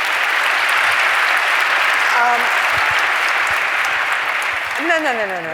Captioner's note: applause